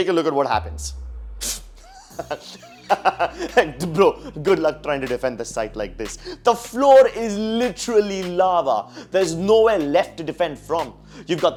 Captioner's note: laughs